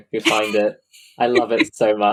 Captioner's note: laughs